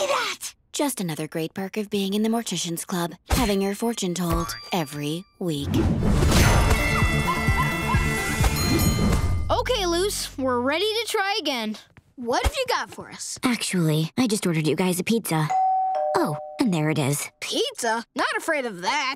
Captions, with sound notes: Just another great perk of being in the Mortician's Club, having your fortune told every week. [music playing, screaming] [dinging] Okay, Luce, we're ready to try again. What have you got for us? Actually, I just ordered you guys a pizza. [doorbell ringing] Oh, and there it is. Pizza. Not afraid of that.